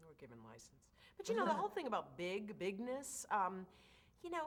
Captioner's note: laughs